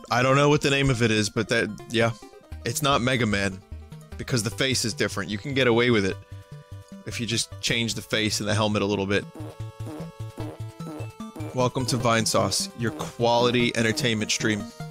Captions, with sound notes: I don't know what the name of it is, but that...yeah. It's not Mega Man. Because the face is different you can get away with it. If you just change the face and the helmet a little bit. (Fart sounds continuously come from enemy) Welcome to Vinesauce, your quality entertainment stream.